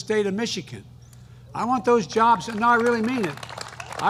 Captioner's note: applause